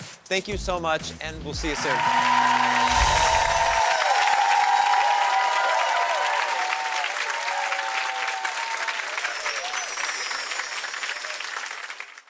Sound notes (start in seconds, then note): 1.6 audience cheering; 2.1 jingling; 9.1 jingling; 9.6 applause